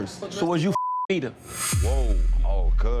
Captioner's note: beep